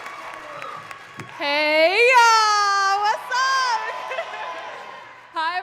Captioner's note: laughing; crowd cheering and clapping